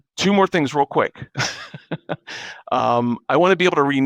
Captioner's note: laughing